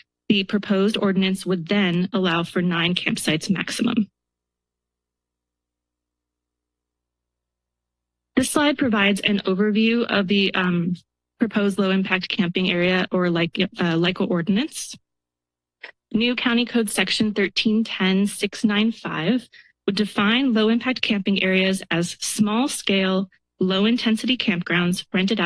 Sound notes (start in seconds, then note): 4.7 pause; 15.0 pause